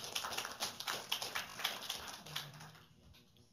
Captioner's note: applause